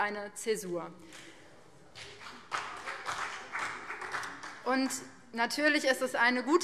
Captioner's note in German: Beifall BÜNDNIS 90/DIE GRÜNEN